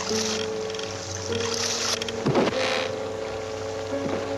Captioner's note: sewage flowing; ominous music; chest creaks; ominous music; sewage flowing